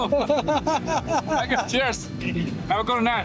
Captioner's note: laughing